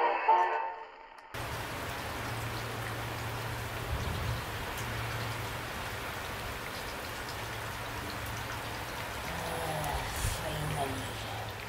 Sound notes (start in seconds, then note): 1.9 rain falling